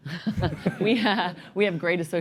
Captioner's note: laughter